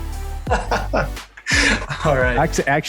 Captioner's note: laughs